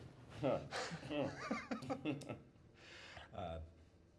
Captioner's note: laughing